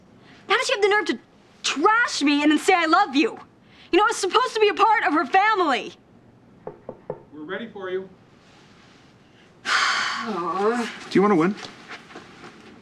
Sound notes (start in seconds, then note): 6.6 knock on door; 9.2 exhales